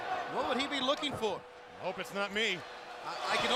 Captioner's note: crowd chatter